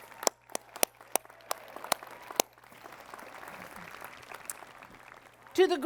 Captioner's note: applause